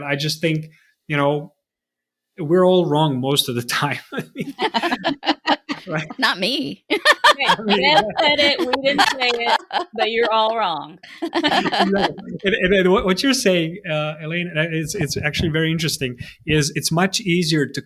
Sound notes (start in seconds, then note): 4.7 all laughing; 6.8 laughing; 12.0 all laughing